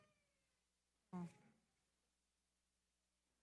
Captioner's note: audio cuts out